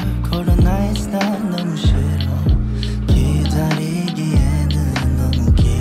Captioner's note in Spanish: habla extranjera